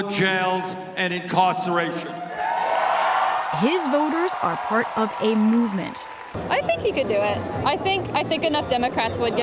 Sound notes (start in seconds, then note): 2.1 cheering and applause